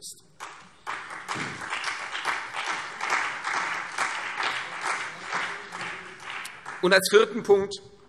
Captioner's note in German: Beifall CDU und BÜNDNIS 90/DIE GRÜNEN